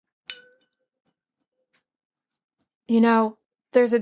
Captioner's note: glass clinks